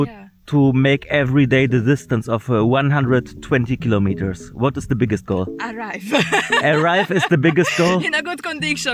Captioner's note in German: gelächter